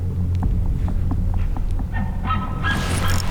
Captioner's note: caller bugling